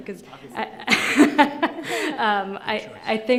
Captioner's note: laughs